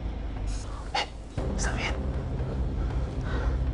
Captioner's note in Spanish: Susurra